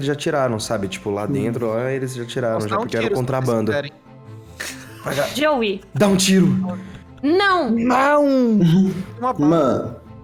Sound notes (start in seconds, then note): 4.6 laughing